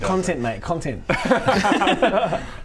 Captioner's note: reckless giggles